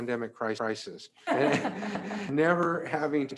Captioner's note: they all laugh